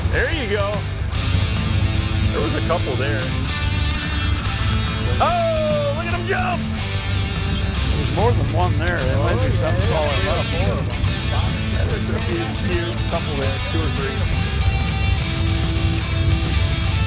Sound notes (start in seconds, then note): 6.0 shouts